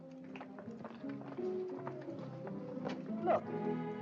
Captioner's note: footsteps